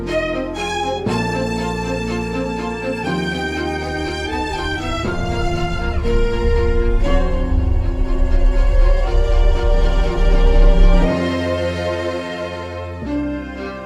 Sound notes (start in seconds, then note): 7.0 machines humming